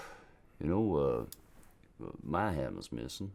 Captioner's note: none